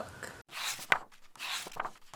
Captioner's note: pages turning